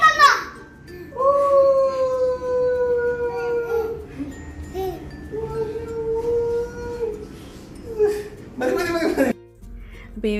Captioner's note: yelling in excitement